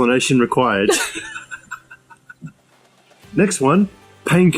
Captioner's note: laughs